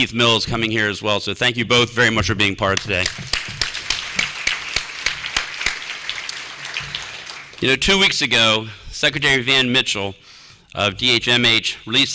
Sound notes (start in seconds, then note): 2.8 applause